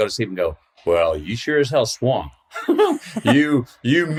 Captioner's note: laughs